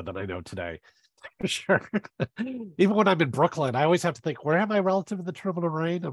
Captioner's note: laughs